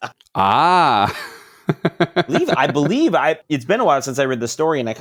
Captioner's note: laughing